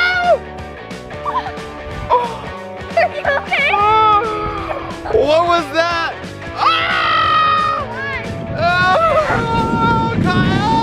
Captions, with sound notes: - Are you okay? (gasps) - What was that? Ah! Kyle!